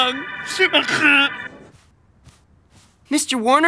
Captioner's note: speaking in French